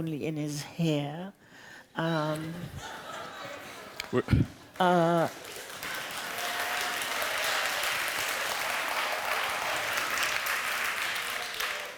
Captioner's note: applause